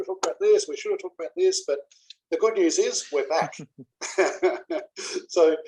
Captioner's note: laugh